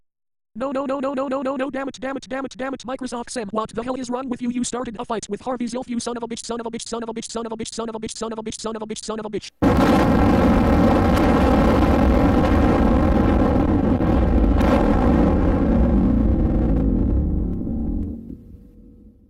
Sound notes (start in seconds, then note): 9.5 explosion